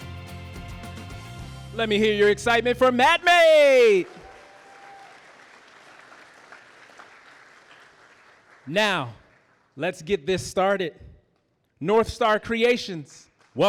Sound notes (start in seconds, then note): 0.0 upbeat music; 3.7 audience applauding